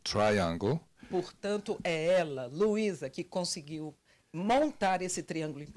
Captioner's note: translator speaking Portuguese